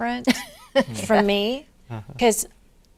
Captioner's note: laughing